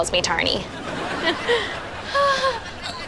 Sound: chuckling

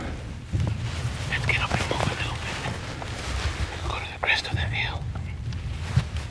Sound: whispering

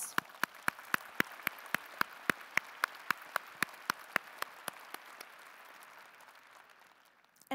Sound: applause

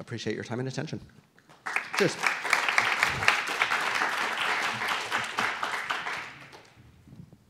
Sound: applause

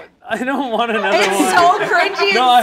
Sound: group laughs

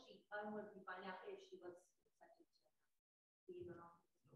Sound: voice muffling

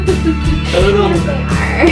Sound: laughs

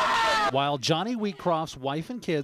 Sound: screams

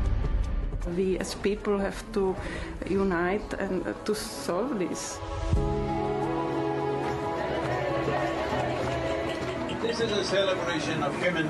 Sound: cheering/Applause

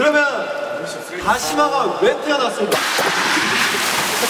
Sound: rubbing

